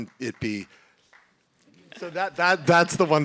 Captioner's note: clapping